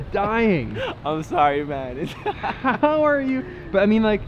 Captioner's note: laughs